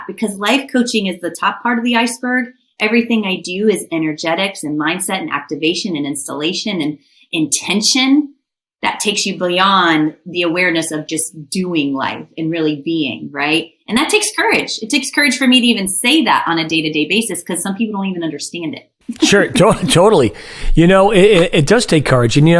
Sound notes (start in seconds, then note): 19.1 laughing